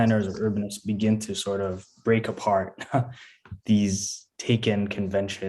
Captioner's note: laughs